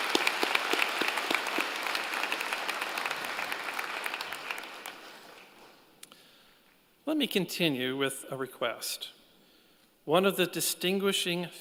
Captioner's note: applause